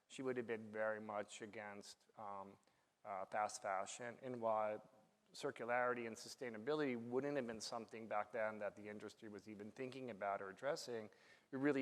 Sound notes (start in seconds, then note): none